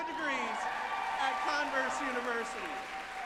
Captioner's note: group applauding and cheering